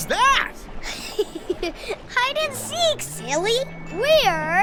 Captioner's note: chuckles